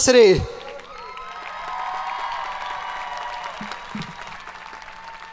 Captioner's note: audience cheering